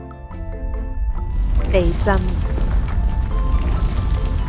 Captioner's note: earthquake